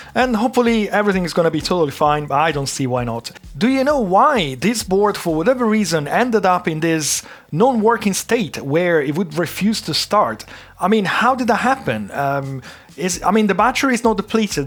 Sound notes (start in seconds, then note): none